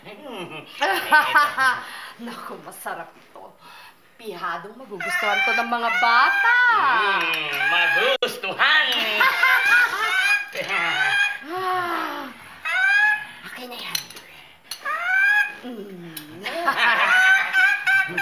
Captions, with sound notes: [laughs] Oh, this is delicious! The children will surely love this! Mmm! They'll like it! [Lupita laughing] [cawing] Let me have that... [laughing]